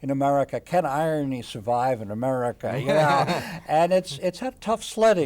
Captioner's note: laughs